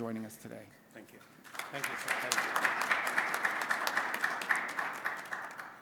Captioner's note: applause